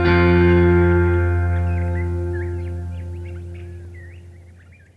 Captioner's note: birds chirping